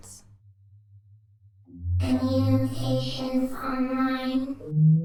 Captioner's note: hummmm!